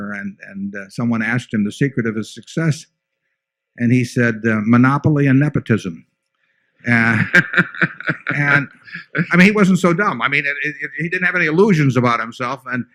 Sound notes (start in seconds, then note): 6.9 laughter